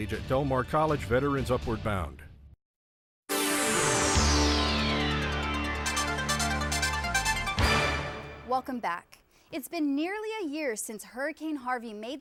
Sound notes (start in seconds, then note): 3.7 whooshing; 5.5 techno music